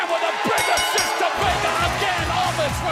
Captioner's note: bell ringing